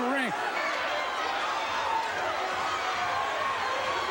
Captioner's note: crowd cheering